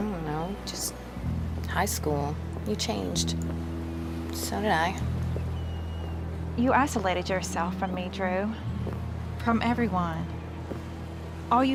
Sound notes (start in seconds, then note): none